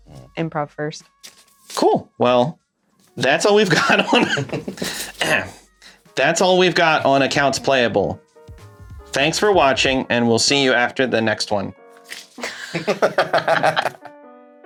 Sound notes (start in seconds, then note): 3.7 chokes on laughter; 5.1 robotically; 12.4 laughter